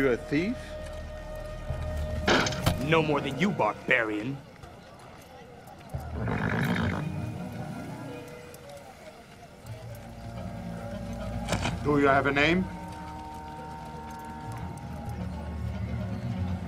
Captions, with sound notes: - Are you a thief? - No more than you, barbarian. (horse snorts) - Do you have a name?